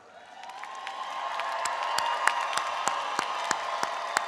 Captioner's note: audience applauds